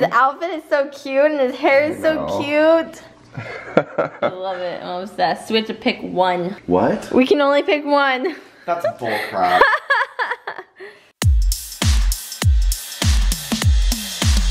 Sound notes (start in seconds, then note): 3.4 laughs; 9.1 laughs; 11.8 techno music